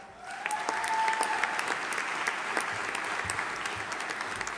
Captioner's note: audience applauding